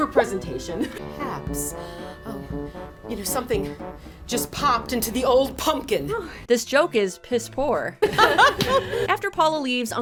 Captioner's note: laughing